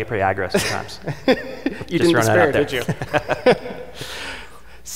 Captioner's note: both laughing